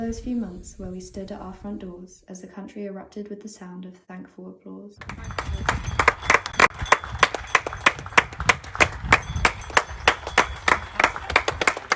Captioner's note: sound of clapping, bells ringing and sirens